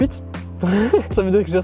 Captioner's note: giggles